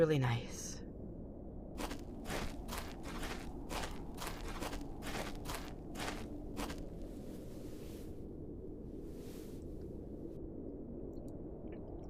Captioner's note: two sets of footsteps, sitting, eating